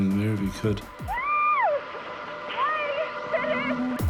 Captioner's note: woman whoops